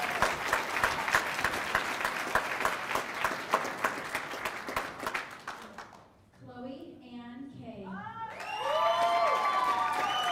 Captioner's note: cheers and applause